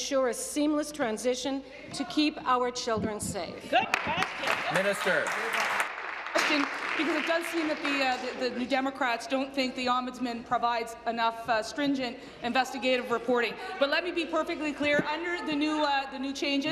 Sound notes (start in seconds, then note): 7.8 applause